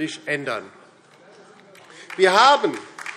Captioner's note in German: Beifall DIE LINKE